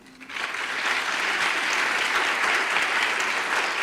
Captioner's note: audience applause